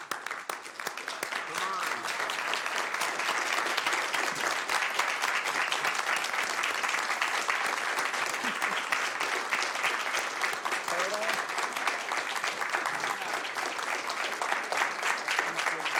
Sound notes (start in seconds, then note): 9.7 applause